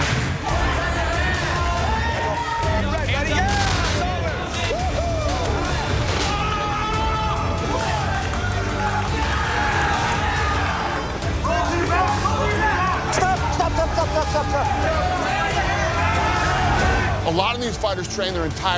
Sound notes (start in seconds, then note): 4.7 screams; 6.0 cheers and applause